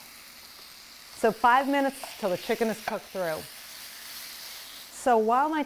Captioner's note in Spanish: crepitando